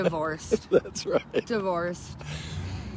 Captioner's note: father laughing